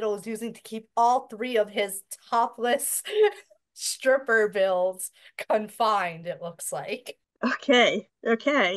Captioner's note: laughs